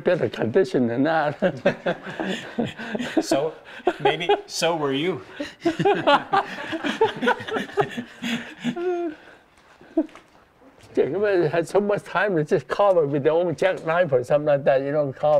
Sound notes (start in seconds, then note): 8.0 laughing